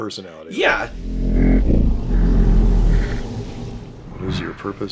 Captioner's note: deep droning